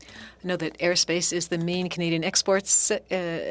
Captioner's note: speaking French